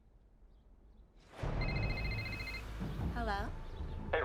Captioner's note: cell phone rings